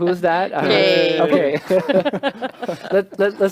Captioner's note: laughter